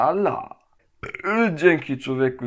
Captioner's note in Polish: beknięcie